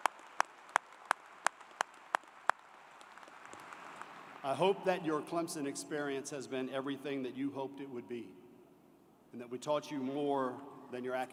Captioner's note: applause